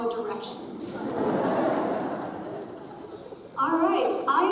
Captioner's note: audience chuckles